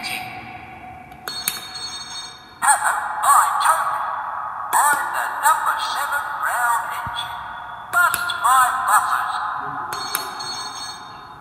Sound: bell rings

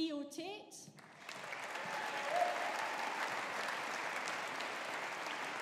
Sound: audience applauding

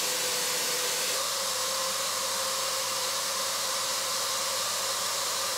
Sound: vacuum cleaner whirring

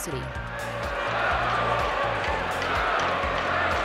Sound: crowd chants

